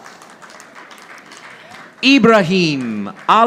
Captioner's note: audience applauding